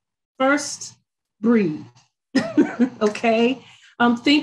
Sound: laughs

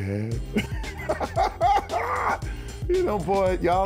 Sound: laughs

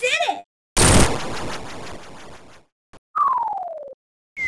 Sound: ledge breaking sound

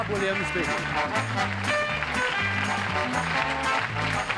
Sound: applause; theme music playing

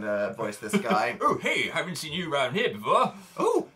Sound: Phil reads in a grumbly voice

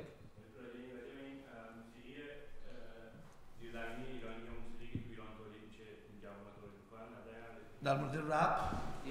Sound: speaking in farsi

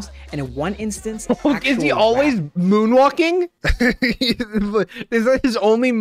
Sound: laughs

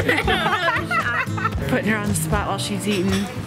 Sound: laughs

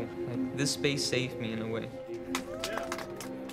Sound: clapping

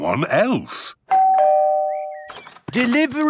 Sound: door bell ringing

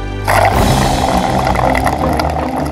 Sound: dramatic music playing; slurping

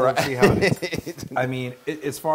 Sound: laugh

